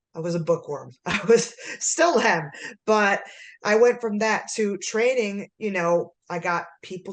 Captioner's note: laughter